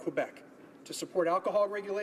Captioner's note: speaking in french